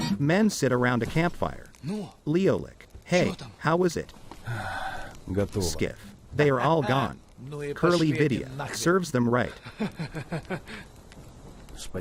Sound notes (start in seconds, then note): 1.7 fire crackles; 9.6 chuckles